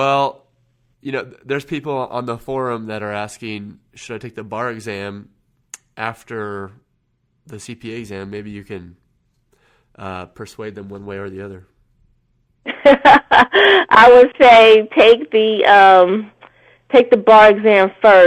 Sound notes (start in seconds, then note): 12.6 laughter